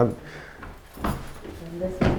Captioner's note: footsteps